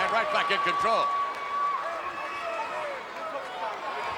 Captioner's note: crowd yelling